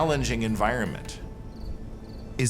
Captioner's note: crickets chirping